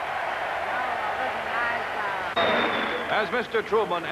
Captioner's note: cheering